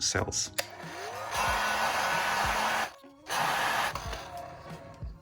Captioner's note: heat shrink gun whirring